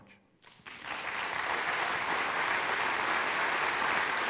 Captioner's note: applauding